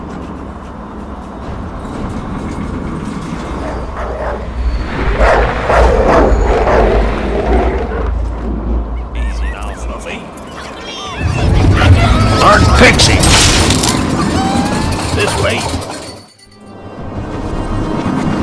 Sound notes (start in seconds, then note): 3.9 barking; 5.2 Fluffy Snarling; 13.4 motorbike Sputtering; 16.7 motorbike Stalling